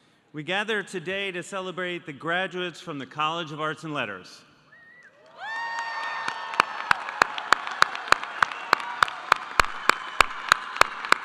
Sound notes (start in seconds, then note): 5.2 audience applauding; 5.2 audience cheering